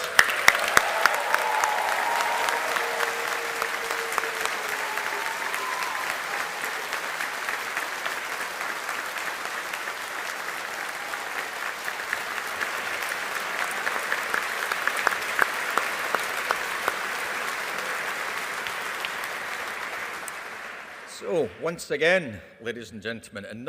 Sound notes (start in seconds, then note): 0.2 audience applauding and cheering; 13.0 audience continues applauding